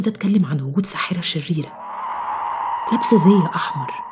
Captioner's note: WIcked hissing sounds